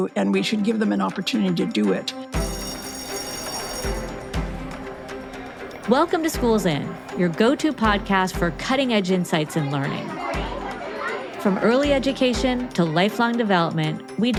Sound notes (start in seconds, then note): 2.3 bell ringing; 3.0 upbeat music